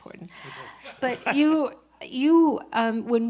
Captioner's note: laughter